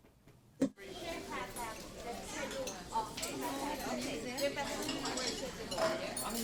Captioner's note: people talking; clattering utensils